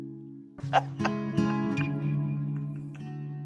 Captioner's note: Moira laughs